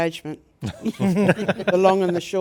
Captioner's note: participants laughing